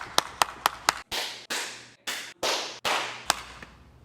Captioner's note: clapping